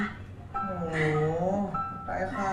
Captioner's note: oww